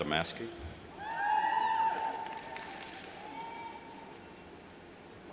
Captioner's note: cheers and applauds